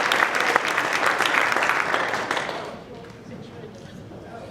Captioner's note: speaking off mic